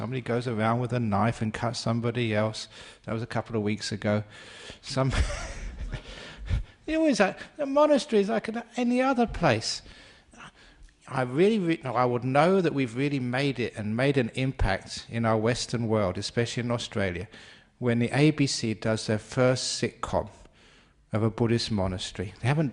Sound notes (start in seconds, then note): 5.0 laughter